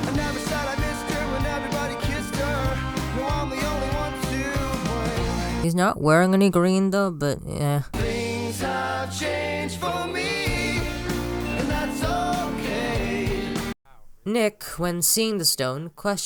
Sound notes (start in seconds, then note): none